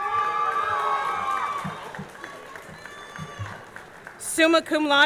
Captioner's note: audience cheering; audience clapping